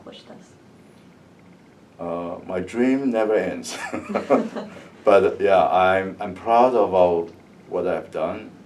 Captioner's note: laugh